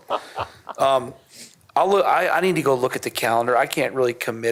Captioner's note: laughter